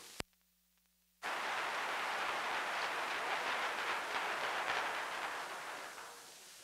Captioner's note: applause